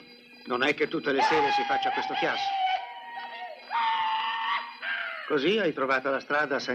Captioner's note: hollering